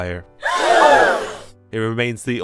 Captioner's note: crowd gasp